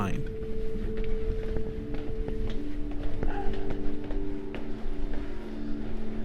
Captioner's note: footsteps falling